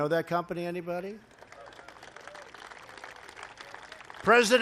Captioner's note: applause